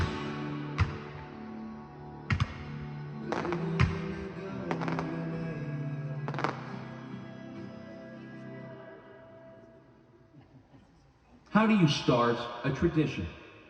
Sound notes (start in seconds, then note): 0.1 energetic music; 6.2 firecrackers booming